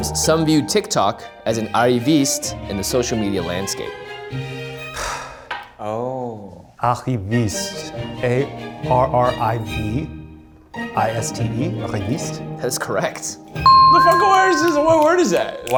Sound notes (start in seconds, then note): 5.0 sighs; 13.6 bell rings